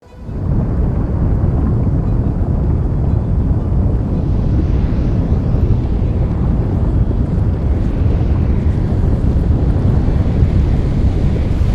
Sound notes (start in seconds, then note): 0.0 gentle music; 0.5 volcano rumbling